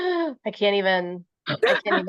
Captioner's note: laughter